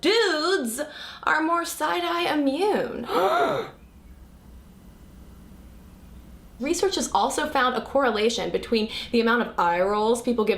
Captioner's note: gasp